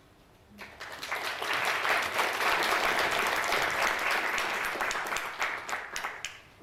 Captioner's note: audience applauding